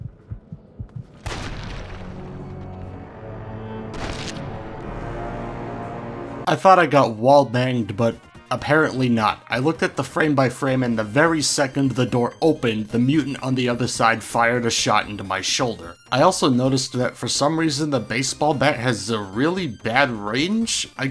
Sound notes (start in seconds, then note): 1.2 gunshot followed by the sound of meat hitting the floor